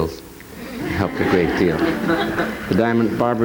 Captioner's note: audience laughing